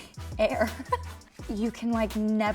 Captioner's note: laughs